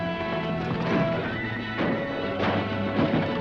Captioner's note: dramatic music; horse hooves clopping; horse neighing; guns firing